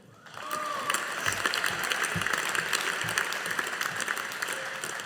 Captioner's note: audience applauding